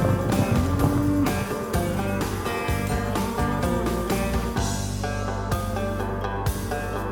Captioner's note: cattle moo